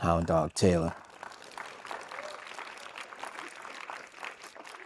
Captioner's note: audience applauds